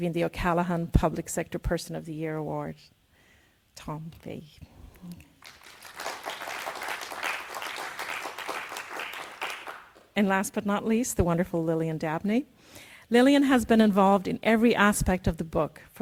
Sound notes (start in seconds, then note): 5.4 audience applauds